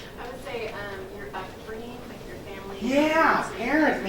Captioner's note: woman's Voice